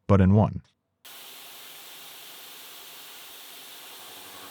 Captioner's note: machine whirring